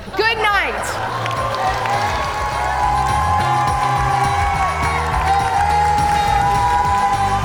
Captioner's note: upbeat music; audience cheer and applaud